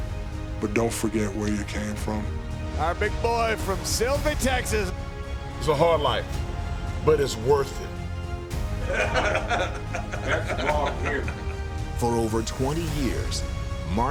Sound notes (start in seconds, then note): 8.7 both laughs